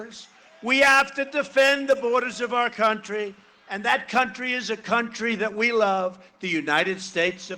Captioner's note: cheering and applause